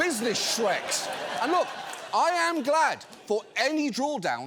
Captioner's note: audience laughs